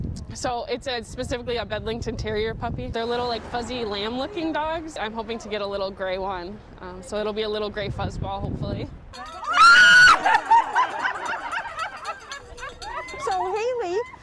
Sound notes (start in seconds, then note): 9.2 shouting and cheering